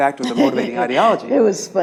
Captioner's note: laughs